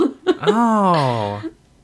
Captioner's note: laughs